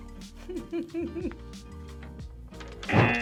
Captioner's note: laughs; buzzer